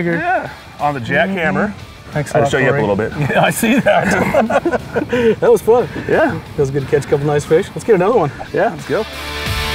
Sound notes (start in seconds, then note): 3.2 laughter